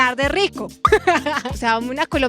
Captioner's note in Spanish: Risas